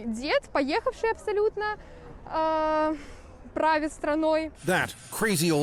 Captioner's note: speaking Foreign Language